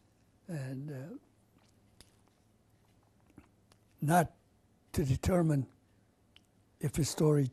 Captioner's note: pauses for 3 seconds